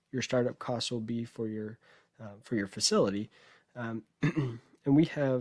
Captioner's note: clears throat